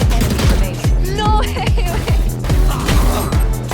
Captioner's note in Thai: หัวเราะ